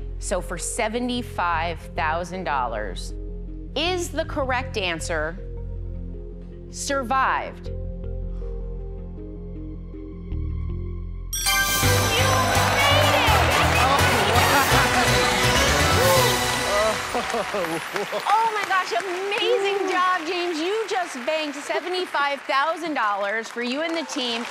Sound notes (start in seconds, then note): 7.9 exhales deeply; 11.3 ding; 12.4 laughing; 16.7 laughs